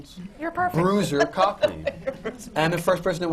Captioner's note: laughter